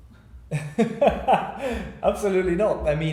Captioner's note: laughing